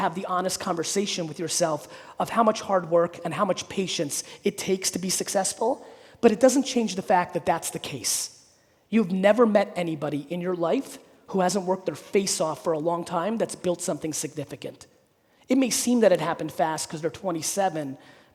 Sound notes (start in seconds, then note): none